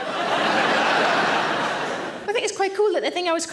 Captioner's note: audience laughing